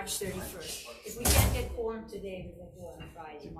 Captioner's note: door slams